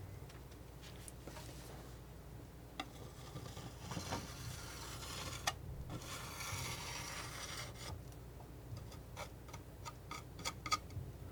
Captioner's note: scratching